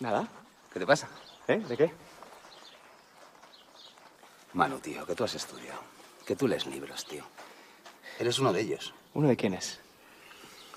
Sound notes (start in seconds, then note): none